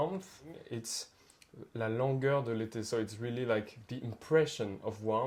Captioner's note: speaks French